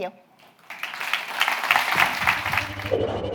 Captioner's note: applause